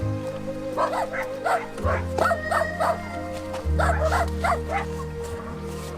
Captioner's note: dogs barking